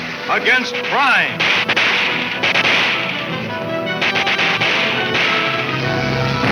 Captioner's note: dramatic orchestra music; guns firing